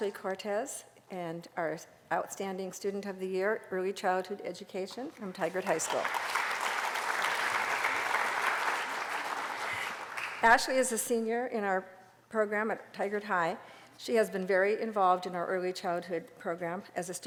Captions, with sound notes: Ashly Cortes, our outstanding Student of the Year, Early Childhood Education, from Tigard High School. [APPLAUSE] Ashly is a senior in our program at Tigard High. She has been very involved in our Early Childhood program,